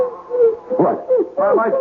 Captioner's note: baby crying